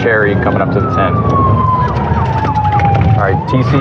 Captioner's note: sirenens